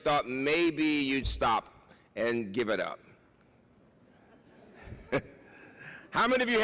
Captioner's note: laughs